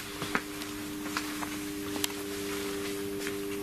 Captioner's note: buzzing